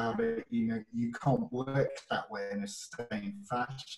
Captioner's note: audio glitches